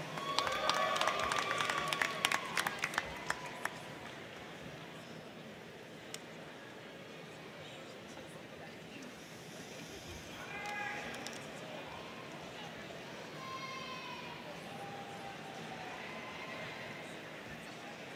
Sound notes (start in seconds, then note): 0.0 crowd cheering; 0.0 crowd clapping; 4.7 crowd chattering